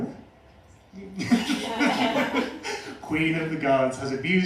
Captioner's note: laughter